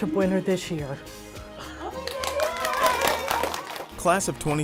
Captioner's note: applause